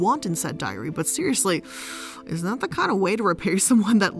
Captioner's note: inhales